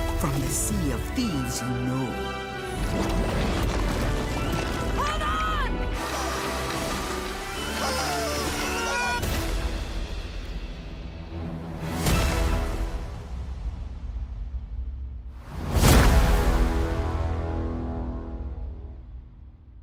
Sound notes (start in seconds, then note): 9.9 men yelling